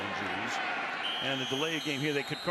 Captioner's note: whistle